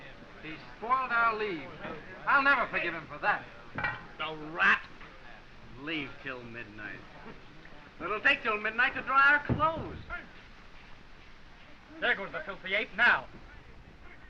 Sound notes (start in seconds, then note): 7.2 scoffs